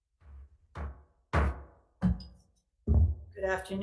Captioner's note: gavel taps